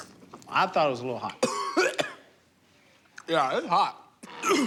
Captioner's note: coughs